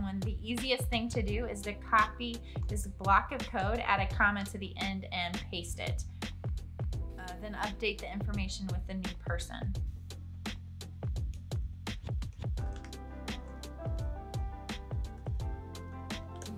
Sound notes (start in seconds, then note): 9.8 typing sounds